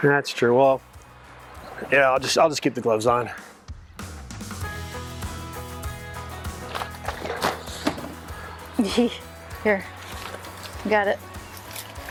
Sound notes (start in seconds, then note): 4.6 soft country music; 7.5 chuckles